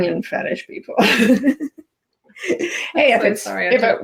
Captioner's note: chuckles